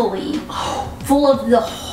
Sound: woman gasps

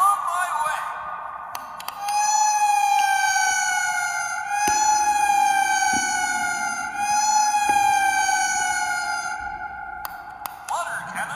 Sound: siren wails

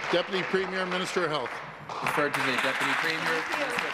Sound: applause

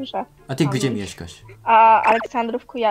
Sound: Polish

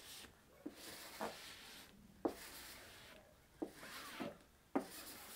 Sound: scraper rasping and thumping

